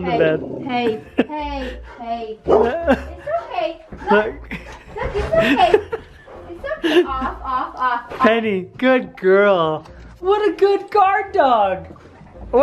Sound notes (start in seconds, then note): 2.4 Penny barks